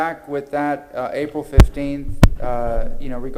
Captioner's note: ~distortion~